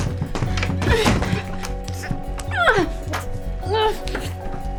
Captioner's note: Ivy groaning